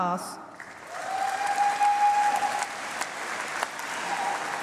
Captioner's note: applause